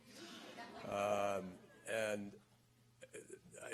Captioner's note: laughter